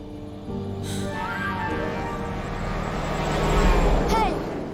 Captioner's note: horn honking